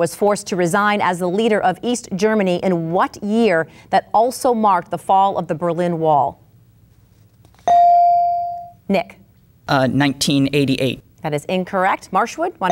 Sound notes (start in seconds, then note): 7.7 bell dinging